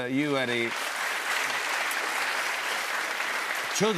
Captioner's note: applause